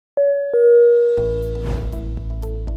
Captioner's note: low pitches beeps